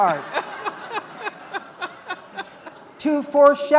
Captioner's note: laughing